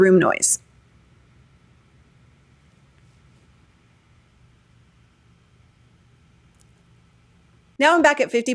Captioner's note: silence with background noise